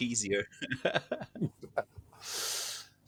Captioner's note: laughing